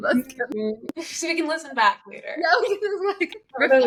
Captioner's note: laughs